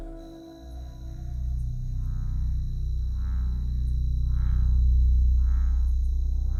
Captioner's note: pensive music; crickets chirping